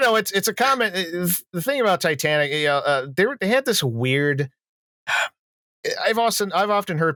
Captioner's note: impatient breath